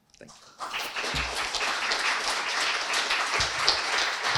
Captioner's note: audience applauding